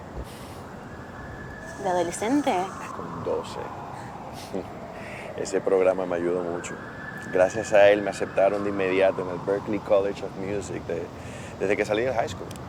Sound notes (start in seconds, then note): 0.1 laughing; 0.8 sirens; 4.3 laughing; 6.5 sirens; 8.9 sirens; 10.6 sirens